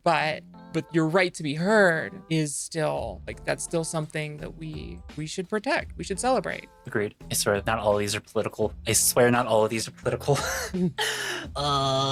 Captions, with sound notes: But but you're right to be heard is still like that's still something that we we should protect. We should celebrate agreed. I swear, not all of these are political. I swear not all of these are political. (laughs)